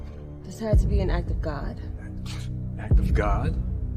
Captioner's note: Winslow scoffing